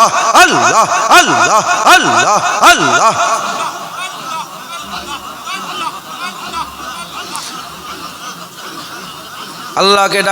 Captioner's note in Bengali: সশব্দ হাসি